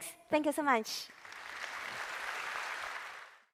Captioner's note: applause